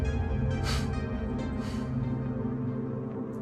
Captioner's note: scoffs